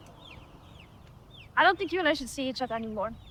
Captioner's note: none